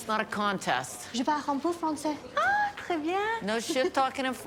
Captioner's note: both speaking french